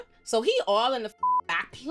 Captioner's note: beep